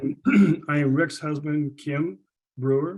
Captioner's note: clears throat